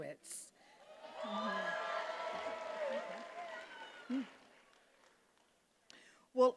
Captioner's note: attendees applauding and cheering